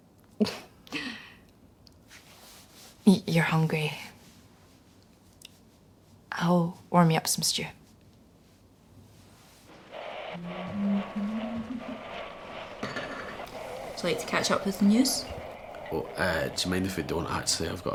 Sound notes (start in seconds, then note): 9.7 radio tuning/interference